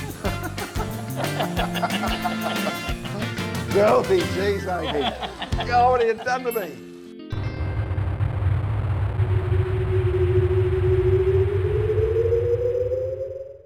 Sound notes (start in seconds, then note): 5.0 laughs